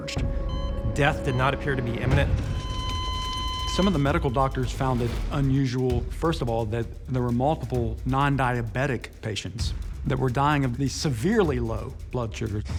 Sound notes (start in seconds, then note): 1.9 beeping